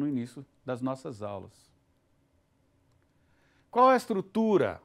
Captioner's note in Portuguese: silêncio